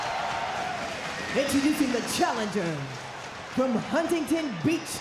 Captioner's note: audience cheering